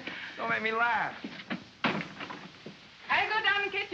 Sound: door closes

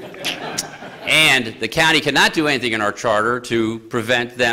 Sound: laughter

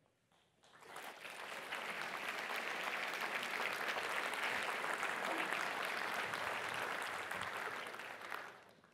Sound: applause

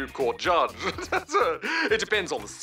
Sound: laughs

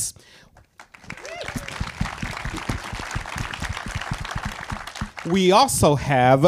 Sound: audience cheers and applauds

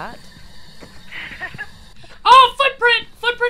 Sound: laugh

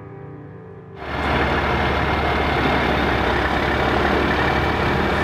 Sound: machine engine idling

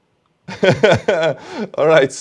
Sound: laughs

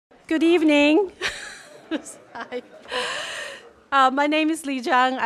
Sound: laugh

